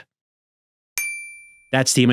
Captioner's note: dings